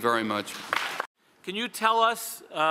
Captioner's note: audience applauds